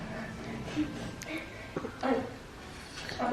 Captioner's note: laughing